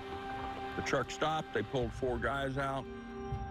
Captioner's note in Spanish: habla en ingles